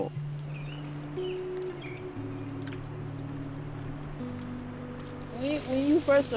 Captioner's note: birds chirping; peaceful music